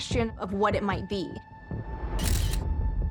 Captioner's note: camera shutter